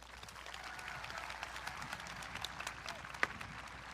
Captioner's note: audience clapping